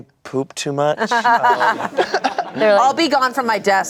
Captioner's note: everyone laughs